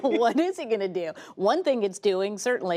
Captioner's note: laughter